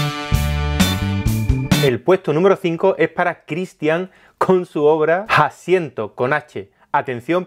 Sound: in Spanish

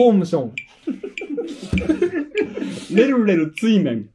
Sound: laughing

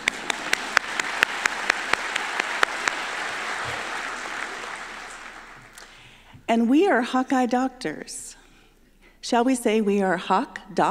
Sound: applause

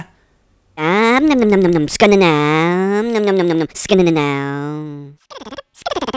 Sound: funny motor sound

